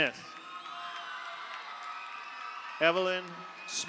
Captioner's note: audience cheers; audience applauds